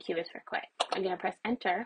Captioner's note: keyboard press